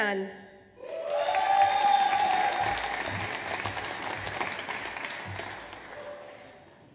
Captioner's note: audience cheers; audience applauds